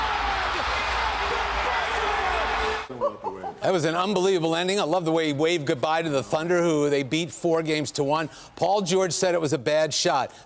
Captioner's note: cheering